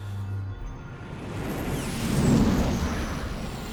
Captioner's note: spaceship whirrs